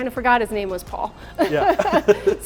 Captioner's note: laughs